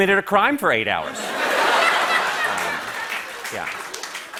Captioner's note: laughter